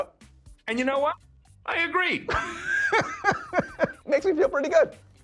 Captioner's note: laughs